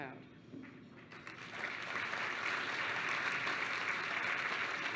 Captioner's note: applause